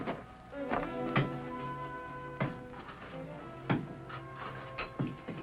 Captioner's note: blows